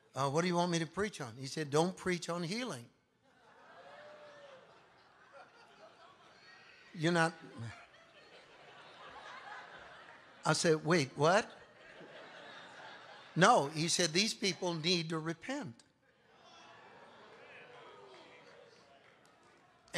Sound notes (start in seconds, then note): 6.8 congregation laughing